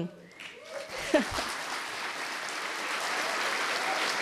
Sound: applause

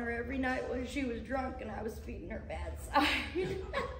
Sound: laughing

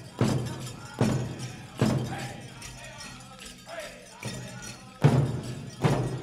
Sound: regalia ornaments jingling; drum beating intensely

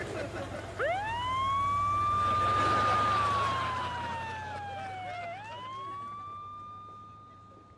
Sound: sirens blaring

